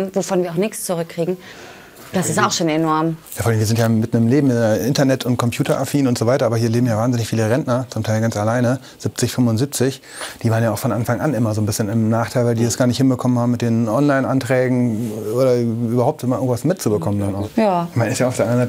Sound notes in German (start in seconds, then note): none